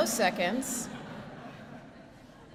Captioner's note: laughter